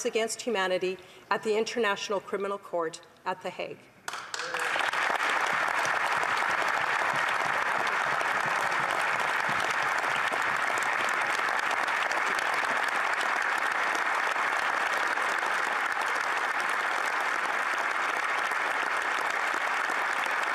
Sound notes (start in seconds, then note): 6.9 applause